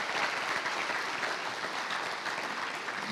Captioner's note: applause